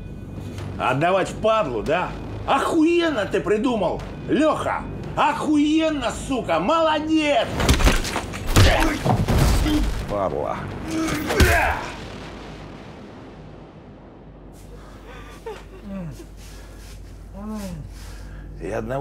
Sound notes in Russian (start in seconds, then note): 8.4 удар; 11.1 удар; 15.0 женский плач, мужские стоны